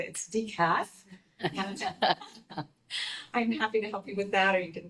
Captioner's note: group laughing